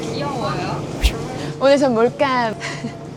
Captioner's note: whip